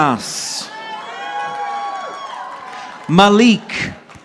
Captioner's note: audience applauding